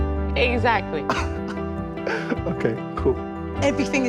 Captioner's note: chuckles